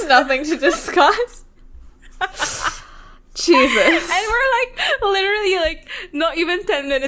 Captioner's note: laughs